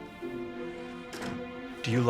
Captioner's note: door closes